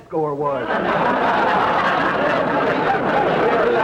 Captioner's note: audience laughter